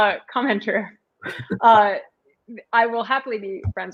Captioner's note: laughter